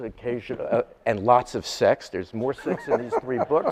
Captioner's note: laughing